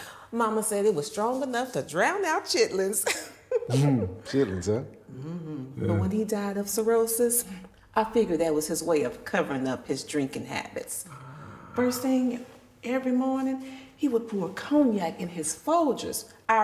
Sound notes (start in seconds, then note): 3.5 laughing; 4.2 chuckling